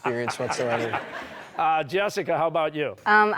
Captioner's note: laughter